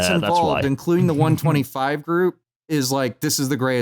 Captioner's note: chuckles